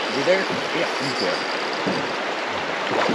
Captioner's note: reel spinning